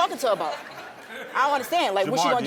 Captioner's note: audience laughing